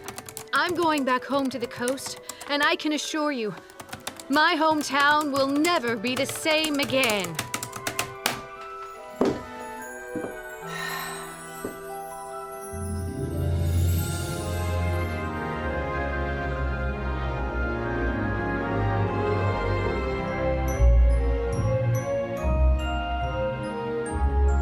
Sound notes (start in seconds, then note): 7.4 typing stops; 10.6 sighs with delight